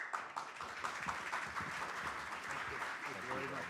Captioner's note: audience claps